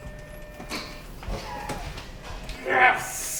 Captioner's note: printer humming